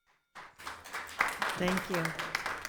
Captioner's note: attendees applauding